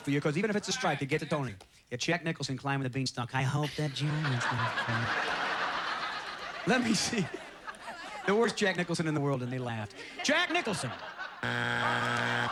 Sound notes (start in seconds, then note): 3.9 imitating Jack Nicholson; 5.2 audience laughter; 11.4 buzzer